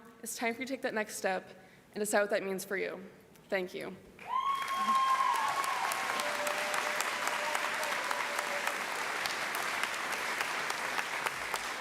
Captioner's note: cheering; applause